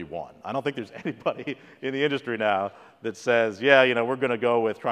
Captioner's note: laugh